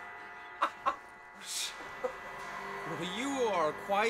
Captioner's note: laughing